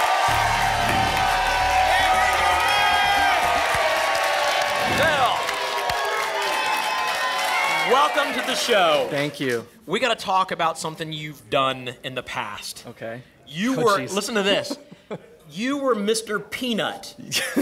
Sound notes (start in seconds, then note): 3.3 applause and cheering; 5.9 applause and cheering cont